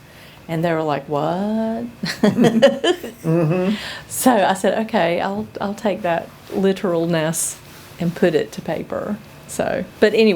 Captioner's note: laughter